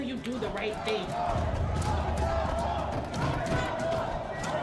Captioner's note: door banging